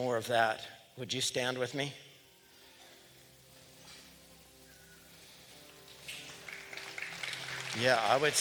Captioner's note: applause